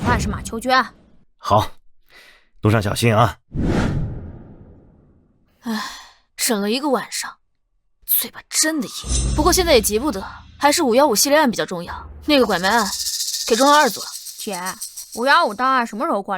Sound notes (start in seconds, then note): 5.6 sigh